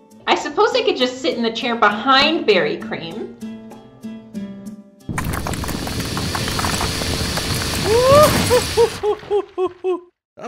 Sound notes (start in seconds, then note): 5.0 whirring; 5.1 crumbling debris; 7.3 whirring continues